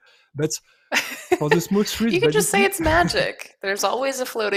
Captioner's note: laughs